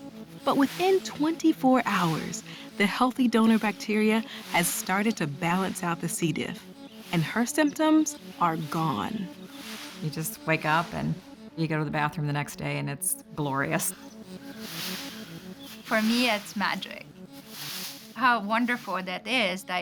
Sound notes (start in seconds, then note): none